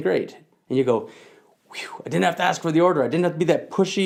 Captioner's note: whew